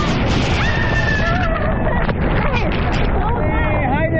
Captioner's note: screaming